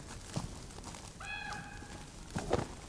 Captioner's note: squawks